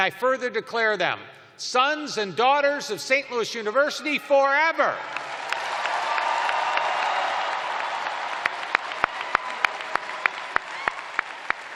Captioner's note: cheers and applause